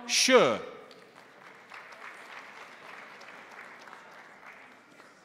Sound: crowd applauding

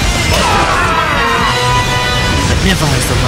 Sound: KO Scream

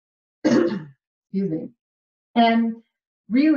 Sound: clears throat

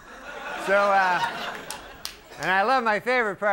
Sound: audience laughing

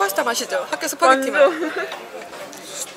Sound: laughs

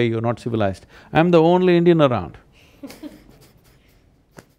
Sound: laughter

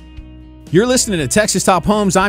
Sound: voiceover

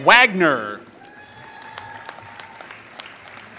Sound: applause

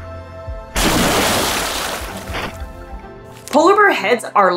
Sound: background music; big water splashing noise

